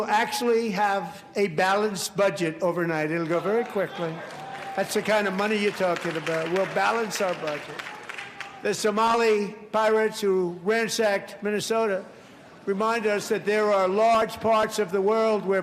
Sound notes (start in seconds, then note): 1.0 applause